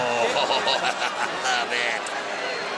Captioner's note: laughing